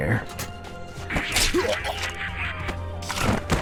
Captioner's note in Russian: скрунк